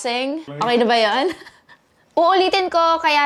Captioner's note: giggles